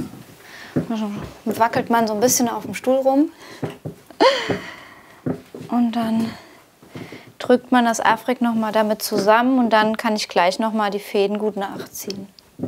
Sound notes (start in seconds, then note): 4.1 she laughs